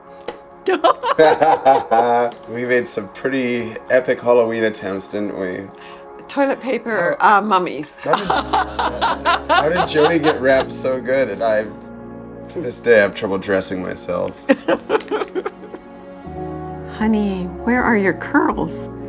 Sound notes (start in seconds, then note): 0.6 both laughing; 8.0 laughs; 14.4 laughs